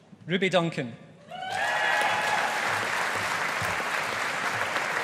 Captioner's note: audience applauding